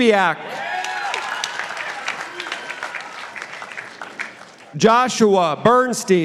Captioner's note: participants applauding